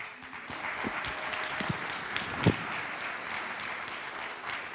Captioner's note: audience applauds